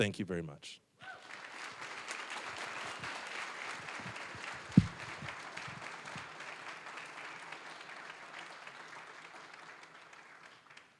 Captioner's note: applause